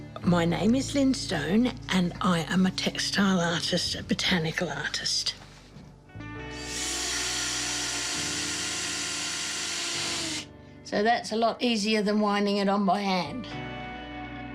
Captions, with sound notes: My name is Lynne Stone and I am a textile artist, a botanical artist. (DRILL WHIRRS) So that's a lot easier than winding it on by hand.